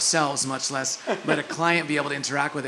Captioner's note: laugh